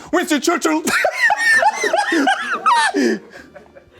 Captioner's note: laughs